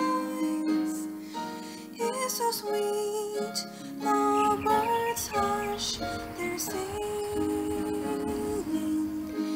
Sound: birds chirping, then stops

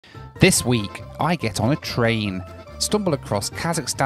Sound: voiceover

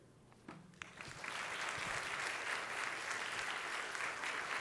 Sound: audience applauds

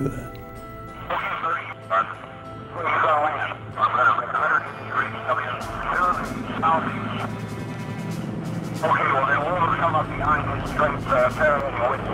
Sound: radio voices

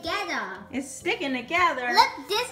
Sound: voiceover

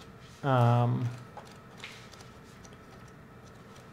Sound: flipping pages

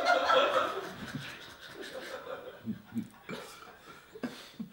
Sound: audience chuckling

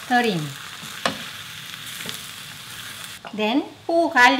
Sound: dish sizzling

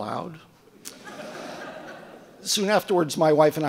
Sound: audience laughing

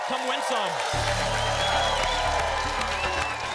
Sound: applause

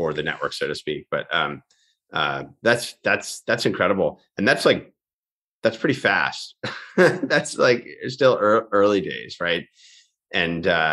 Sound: chuckles

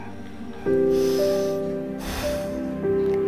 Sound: sighs

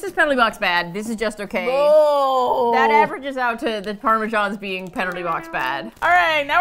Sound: with disgust

